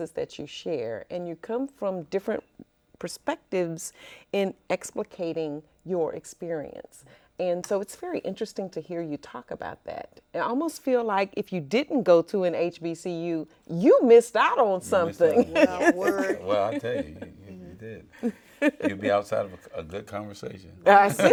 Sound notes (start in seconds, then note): 15.0 laughs; 20.8 all laughing